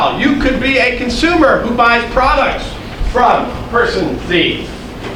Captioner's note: none